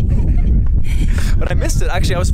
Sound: laughing

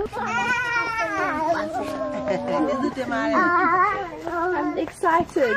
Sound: celebratory noises

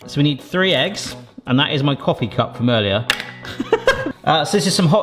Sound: laughs

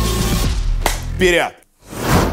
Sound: claps hands

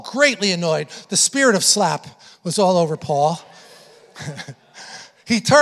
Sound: congregation laughing

